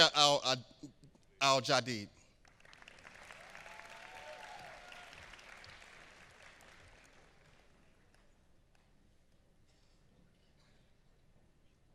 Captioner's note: applause